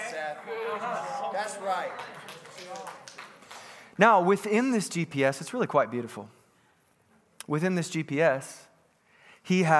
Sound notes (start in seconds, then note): 1.0 congregants clapping hands